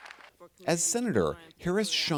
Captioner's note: cheering